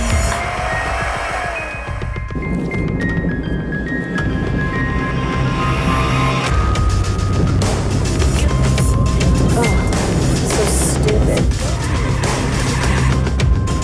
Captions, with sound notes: - Ugh, so stupid (tires squeal)